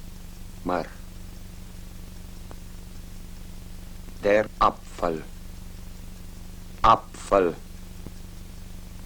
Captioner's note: repeats in German